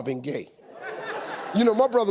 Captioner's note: audience laughing